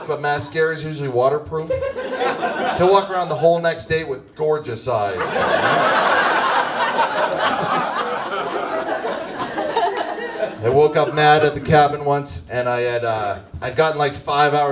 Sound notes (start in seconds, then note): 5.1 audience laughs